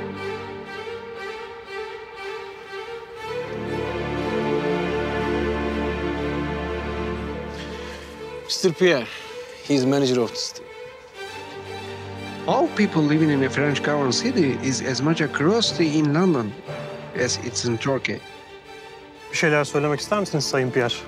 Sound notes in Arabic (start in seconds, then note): 8.2 يتكلم الإنكليزية; 12.3 يتكلم الإنكليزية